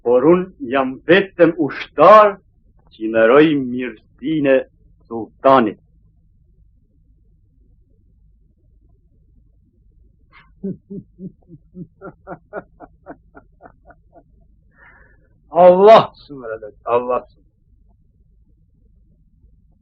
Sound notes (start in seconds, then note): 16.1 continues in Turkish